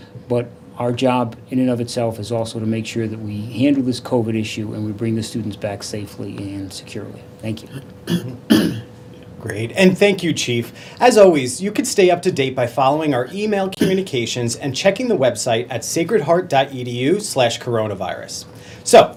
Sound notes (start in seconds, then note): 8.0 clears throat